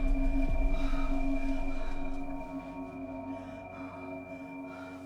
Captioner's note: Hope panting